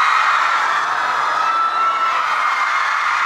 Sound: the cheer was louder than expected

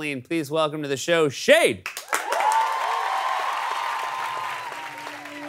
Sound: audience cheers

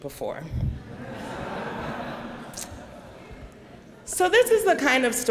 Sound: laughter

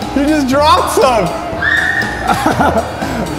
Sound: shriek

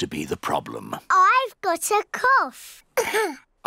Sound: coughs

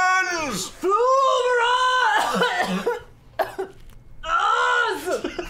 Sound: coughing

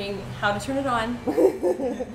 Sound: laughter

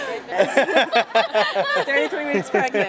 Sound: laughing

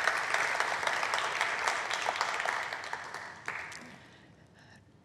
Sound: applause

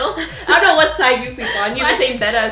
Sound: laughs

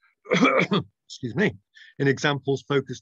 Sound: coughs

